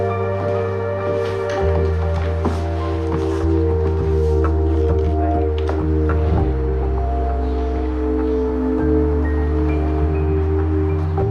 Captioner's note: indistinct chatter